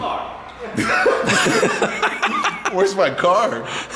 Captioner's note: laughing